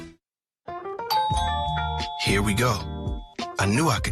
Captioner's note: doorbell